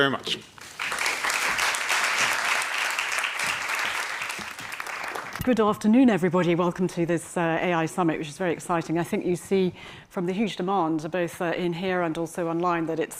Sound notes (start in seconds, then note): 0.6 audience applauds